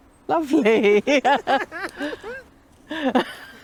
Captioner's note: laughter